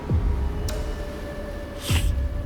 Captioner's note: sniffs; groans